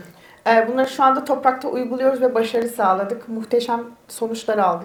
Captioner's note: speaks in Turkish